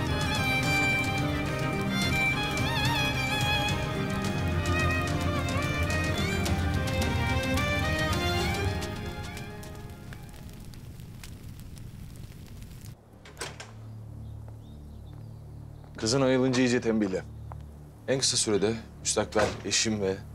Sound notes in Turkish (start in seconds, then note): 13.1 Kapı Açılıyor